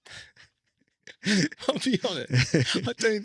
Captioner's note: laughing